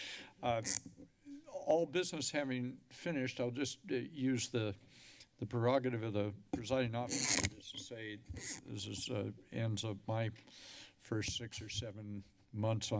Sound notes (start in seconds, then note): 0.6 mic noise; 7.1 mic noise